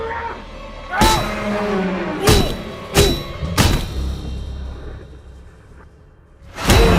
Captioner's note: Crimms screaming; ominous music; Crimms grunting; head thudding